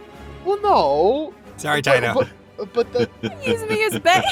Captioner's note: chuckles